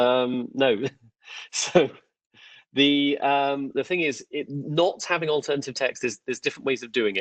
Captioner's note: laughs